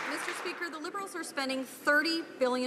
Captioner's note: some Applause